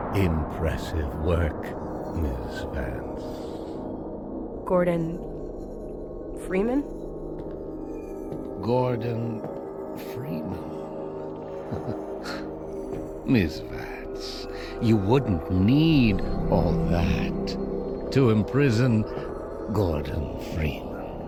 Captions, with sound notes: Impressive work, Ms. Vance. Gordon… Freeman? Gordon… Freeman? [Chuckles] Ms Vance. You wouldn't need all that to imprison Gordon Freeman.